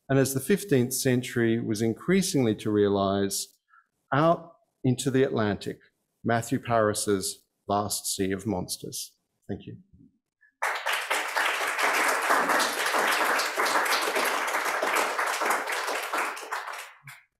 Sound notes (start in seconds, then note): 10.6 audience applauds